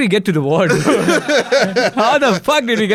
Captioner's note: laughs